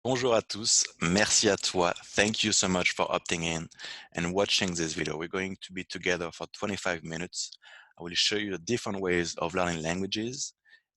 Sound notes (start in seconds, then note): 0.0 French